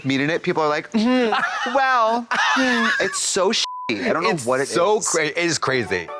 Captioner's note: beep